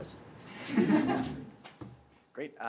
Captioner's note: background chatter